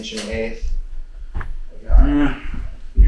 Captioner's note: shoes pattering